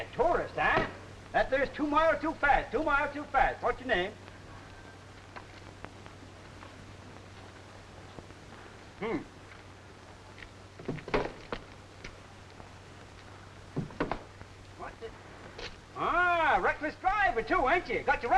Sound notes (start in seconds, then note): 11.1 foot thudding